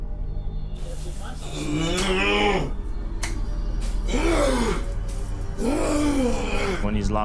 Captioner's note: groaning